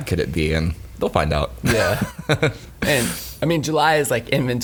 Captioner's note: laughs